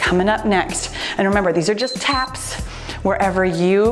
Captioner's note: timer beeps